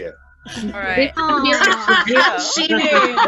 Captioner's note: laughter